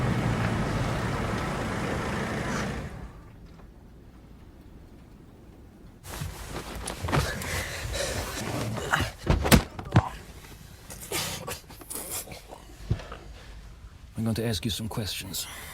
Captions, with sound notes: (Robert gasping) - I'm going to ask you some questions.